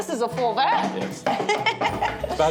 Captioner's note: laughs